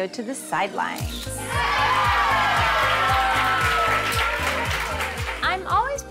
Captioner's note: crowd exclaims and claps